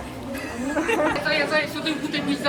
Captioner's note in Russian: сміх